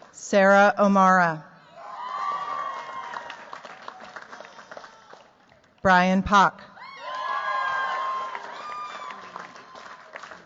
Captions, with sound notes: Sarah O'Mara. [CHEERS, APPLAUSE] Brian Park. [CHEERS, APPLAUSE]